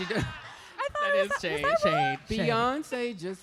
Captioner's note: laughter